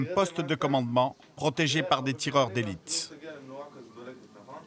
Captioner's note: French spoken audio